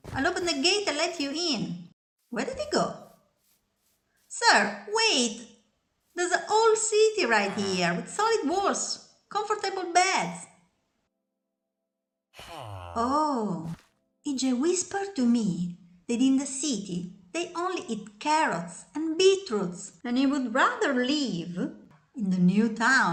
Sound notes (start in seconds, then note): 12.4 awww